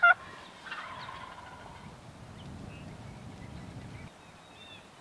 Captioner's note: turkey gobbling